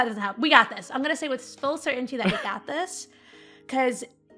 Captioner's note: Rik laughs